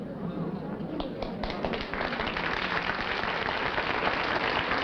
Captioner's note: applause